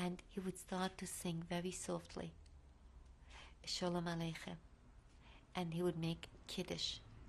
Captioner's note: hebrew